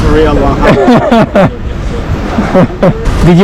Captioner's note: laughs